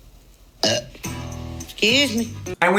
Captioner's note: burps